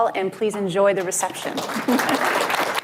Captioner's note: applause, cheers